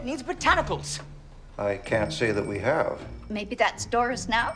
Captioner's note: phone ringing